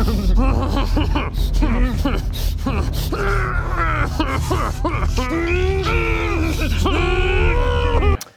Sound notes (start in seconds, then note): 3.1 grrrrrr; 5.6 grrhrhrhrhrhrrrh...rrrghhaahh; 5.6 grrrrrrrrrrrrrrgh...rrrrrrgghhhhh